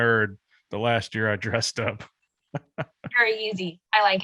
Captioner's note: laughs